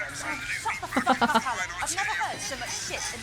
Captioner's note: chuckles